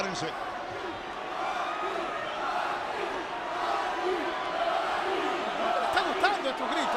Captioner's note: applause